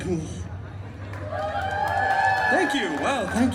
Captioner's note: guests cheering and applauding